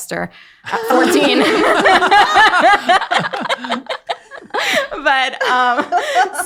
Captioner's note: everyone laughing